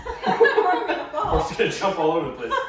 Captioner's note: laughing